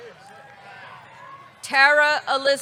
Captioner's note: audience cheering